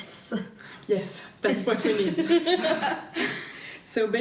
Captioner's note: laughter